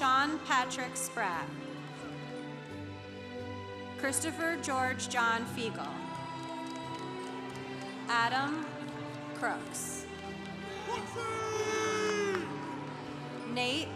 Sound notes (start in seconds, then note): 5.9 congregation applauding; 10.0 congregation applauding